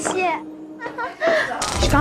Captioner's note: giggling